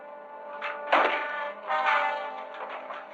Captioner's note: axe thudding